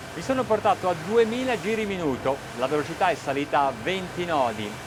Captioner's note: speaking in foreign language